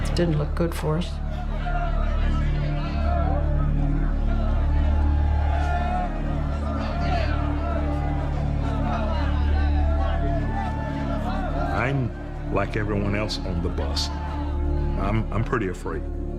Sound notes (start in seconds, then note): 1.6 angry crowd sounds